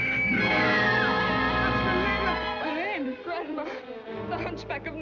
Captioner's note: screaming